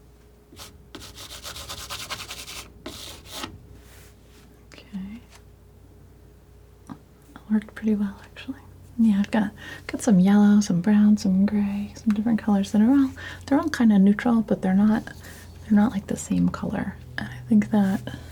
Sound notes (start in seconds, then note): 0.0 scratching